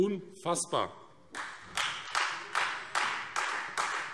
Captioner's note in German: Beifall Freie Demokraten - Zurufe